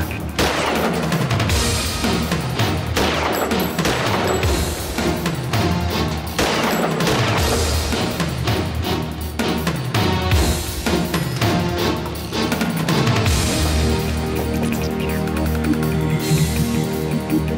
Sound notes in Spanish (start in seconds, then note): 0.1 Disparos